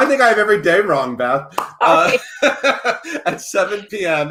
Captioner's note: laughs